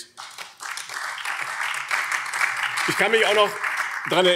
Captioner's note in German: Beifall BÜNDNIS 90/DIE GRÜNEN und Freie Demokraten